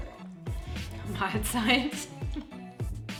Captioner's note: dog burps; laughs